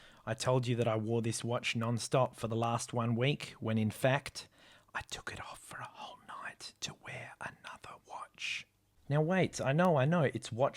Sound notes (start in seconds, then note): 5.2 whispering